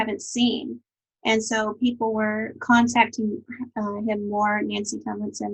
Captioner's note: speaking faintly